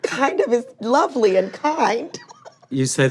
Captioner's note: laughing; laughs